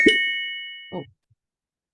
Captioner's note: computer chimes